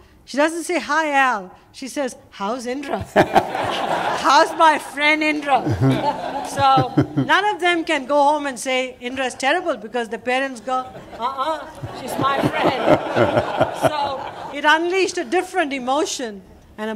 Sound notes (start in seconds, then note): 5.3 laughter; 10.8 laughter